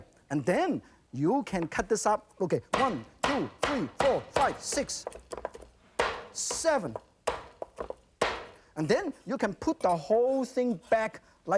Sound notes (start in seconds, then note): 3.2 loud chop